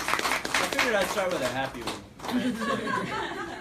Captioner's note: laughter